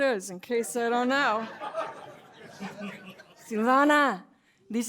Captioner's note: laughter